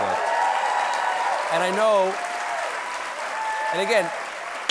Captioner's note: applause